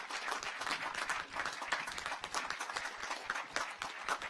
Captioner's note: audience applauds